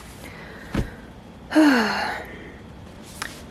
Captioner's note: sigh